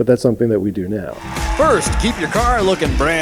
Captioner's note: audience cheering